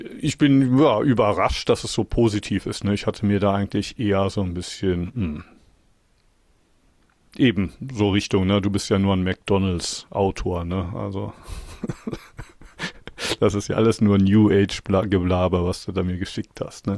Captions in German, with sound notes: Ich bin ja überrascht, dass es so positiv, ne? Ich hatte mir da eigentlich eher so ein bisschen [räuspern] eben so Richtung, ne? Du bist ja nur ein McDonald's Autor, ne? Also, [gelächter] das ist ja alles nur New Age Geblaber, was du da mir geschickt hast,